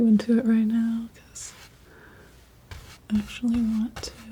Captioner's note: scratching